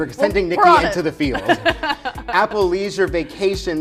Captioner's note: laughs